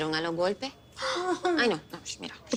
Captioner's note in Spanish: Exclamaciones